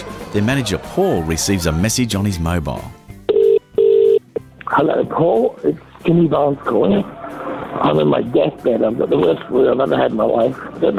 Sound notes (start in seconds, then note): 3.2 phone rings